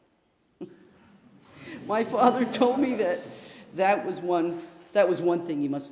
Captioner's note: chuckles